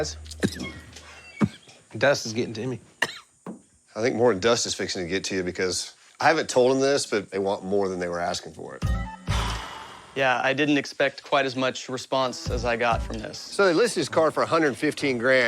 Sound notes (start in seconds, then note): 0.1 coughs; 9.4 exhales sharply